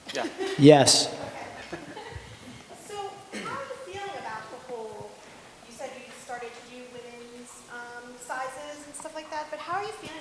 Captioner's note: laughter